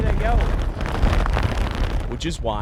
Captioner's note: wind whistling